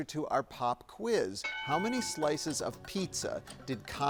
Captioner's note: bell dings